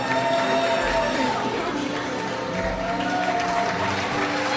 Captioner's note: crowd cheers